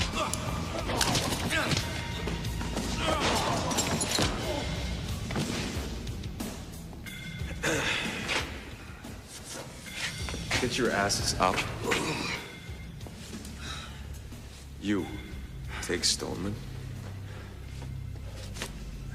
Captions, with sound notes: (glass shattering) - Get your asses up. You, take Stollman.